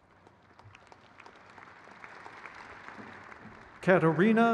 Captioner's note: crowd cheers